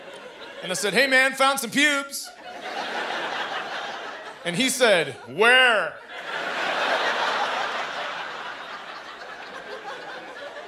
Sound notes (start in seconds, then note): 5.5 laughter